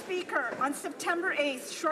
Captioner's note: some Applause